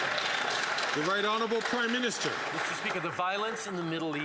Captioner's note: some Applause